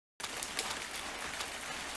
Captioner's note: rain spatters